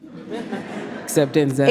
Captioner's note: audience laughs